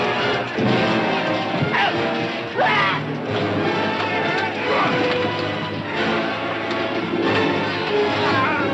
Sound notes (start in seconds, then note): 2.5 grunting